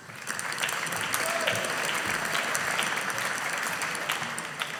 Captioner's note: audience applauding